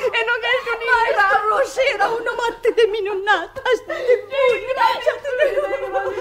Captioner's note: crying